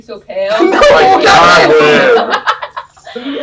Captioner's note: various sounds of exasperation